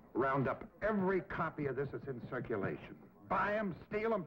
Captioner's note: none